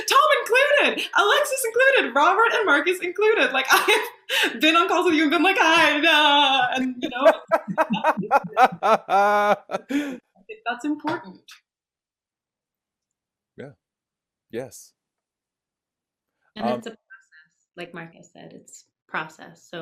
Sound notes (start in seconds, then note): 6.5 singing; 6.8 laughing